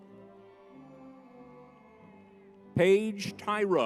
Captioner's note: crowd cheers